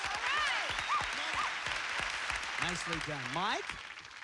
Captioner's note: cheers and applause